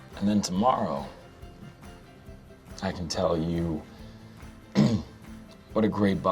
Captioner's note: clears throat